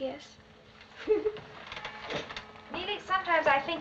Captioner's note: neeley snickering